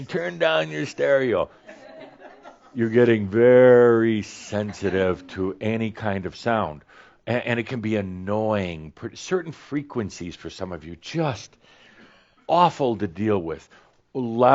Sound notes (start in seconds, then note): 1.4 some chuckles